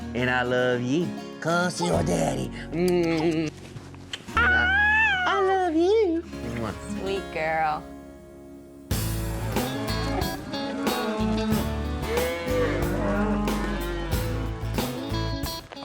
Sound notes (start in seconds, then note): 2.8 smooch; 4.5 giggles